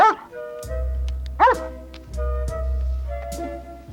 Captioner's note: dog whines